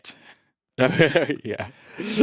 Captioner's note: chuckles